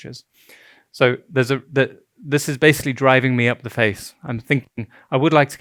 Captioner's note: stuttering